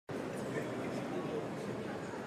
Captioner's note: sound of busy indoor space in background